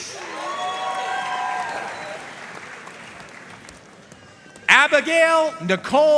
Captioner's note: audience cheering and applauding